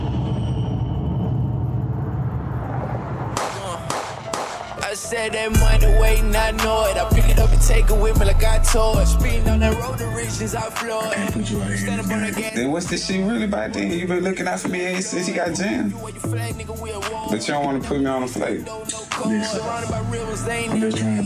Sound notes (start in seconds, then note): 0.3 dramatic music; 3.3 gun firing